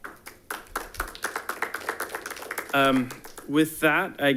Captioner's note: audience applauding